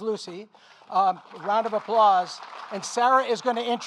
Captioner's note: audience applauding